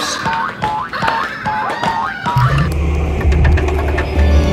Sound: bouncing sound; scary music

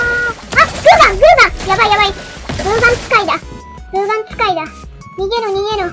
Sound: gunshot

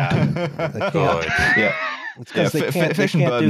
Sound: laughter; chuckles

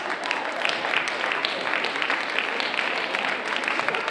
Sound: audience applauding

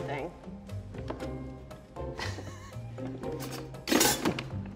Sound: laughs

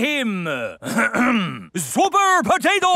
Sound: clears throat

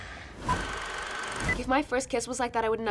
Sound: film clicking

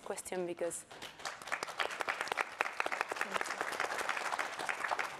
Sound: audience applauds

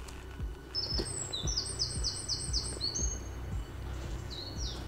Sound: birds chirping

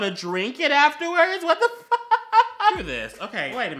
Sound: laughs

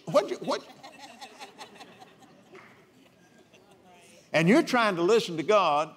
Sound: laughs

